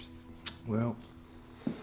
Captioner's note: scottish accent; footsteps